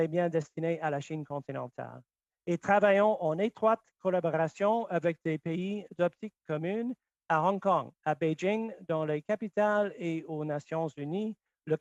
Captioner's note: speaking French